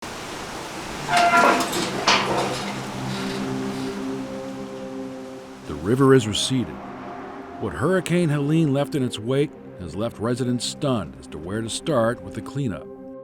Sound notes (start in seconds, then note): 0.0 water rushing; 0.3 metal scraping; 3.5 somber music